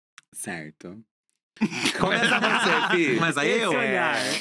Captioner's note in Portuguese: risos